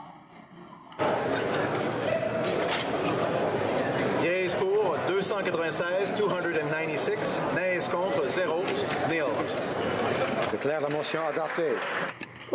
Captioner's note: applause